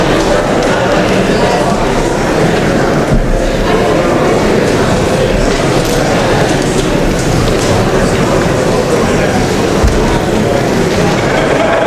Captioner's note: indistinct chatter